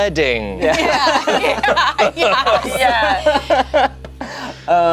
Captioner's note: group laughs